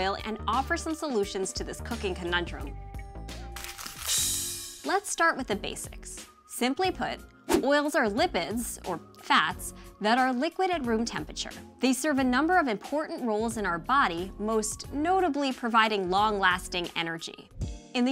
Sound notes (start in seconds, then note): 3.5 paper crumpling; 4.2 cymbal clanking